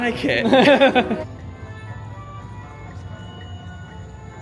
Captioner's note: chuckles